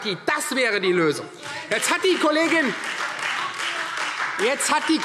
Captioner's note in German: Beifall Freie Demokraten - Zurufe DIE LINKE